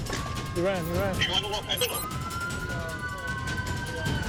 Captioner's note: approaching sirens